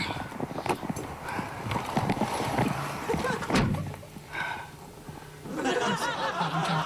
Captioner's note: laughter